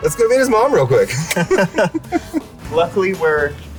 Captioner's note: both laugh